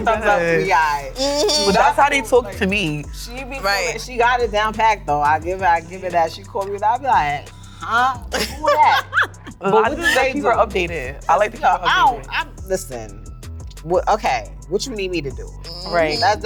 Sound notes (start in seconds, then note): 14.7 laughs